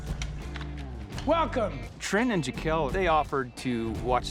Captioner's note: door opens